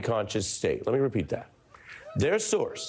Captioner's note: laughter and cheering